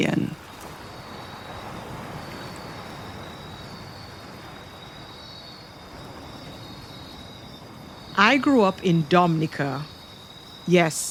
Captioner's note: rainforest animals and insects